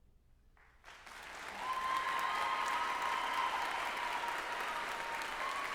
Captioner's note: group applauding and cheering